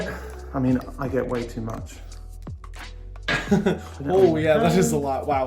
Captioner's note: chuckles